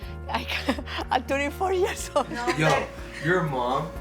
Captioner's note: laughing